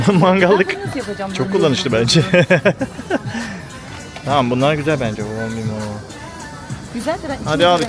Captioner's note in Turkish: kahkaha